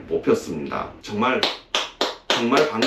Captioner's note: clap clap clap